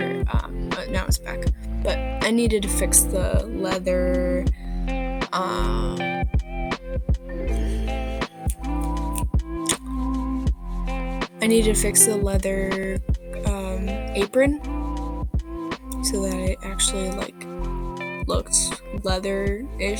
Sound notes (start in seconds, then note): 9.6 snaps of frustration